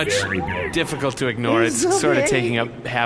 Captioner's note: sobbing